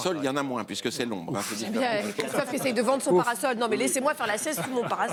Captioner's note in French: rires